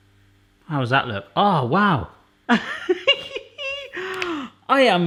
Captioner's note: laughing